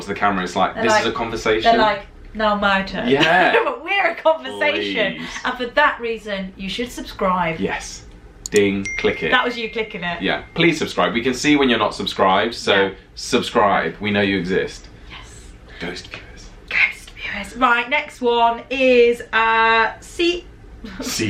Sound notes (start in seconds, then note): 16.0 whispering